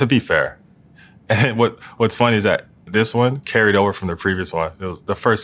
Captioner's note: laugh